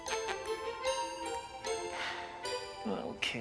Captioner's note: making kissing sounds; sighs